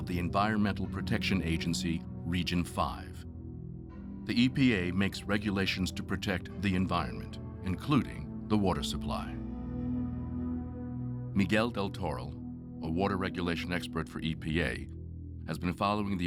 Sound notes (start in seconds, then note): none